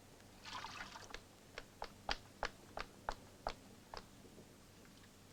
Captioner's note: water sloshing